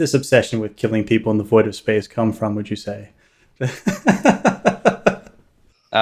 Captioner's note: laughs